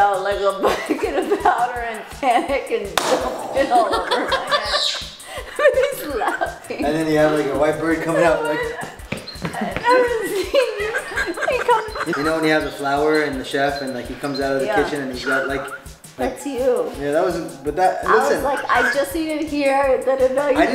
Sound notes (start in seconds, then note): 1.1 laughs; 2.9 makes an explosion sound; 3.1 laughter; 9.5 laughter